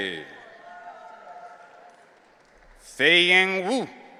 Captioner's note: audience cheering